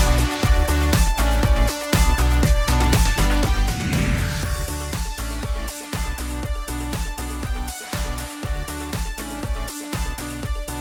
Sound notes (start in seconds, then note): 3.1 scene whooshing; 6.1 bright upbeat music continues